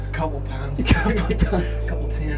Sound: laughter

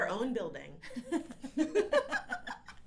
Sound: laughs

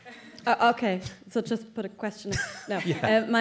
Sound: laughter

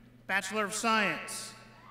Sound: none

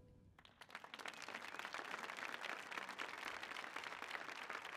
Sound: applause

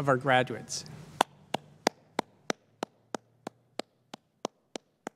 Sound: clapping

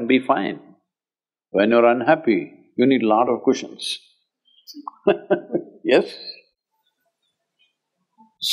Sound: laughs

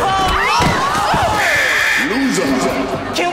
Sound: buzzing

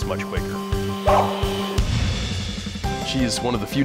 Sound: barks

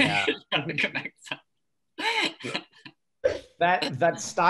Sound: all chuckle

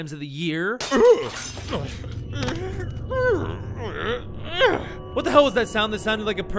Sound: groaning

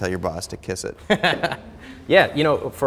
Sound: Ramit chuckles

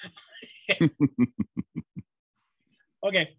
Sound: both laughs

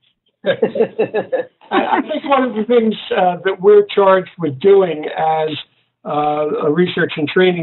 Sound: laughter

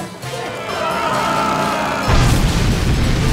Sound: screaming

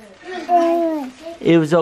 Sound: coos

